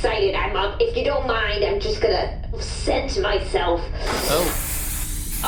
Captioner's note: air spraying noises